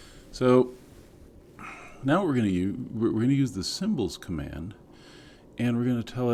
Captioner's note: cough